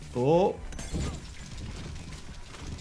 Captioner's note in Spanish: Molotov explotando; fuego crepitante